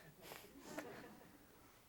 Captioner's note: laughter